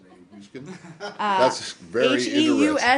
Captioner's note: laughter